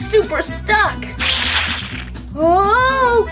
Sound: slime squishes

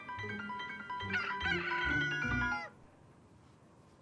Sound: rooster cawing

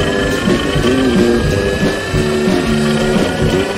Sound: angry E BIKE NOISE

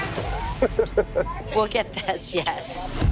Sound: laughing

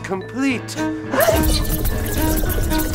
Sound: sci-fi buzzing

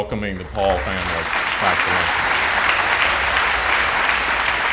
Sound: applause

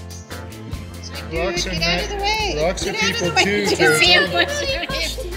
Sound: laughter

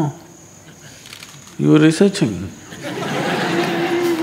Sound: laughter

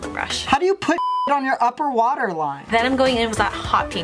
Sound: beep

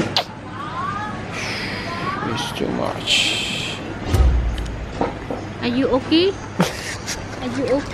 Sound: sigh; giggles

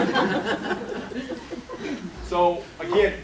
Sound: laughter

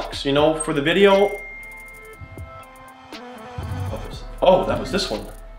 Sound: phone dings

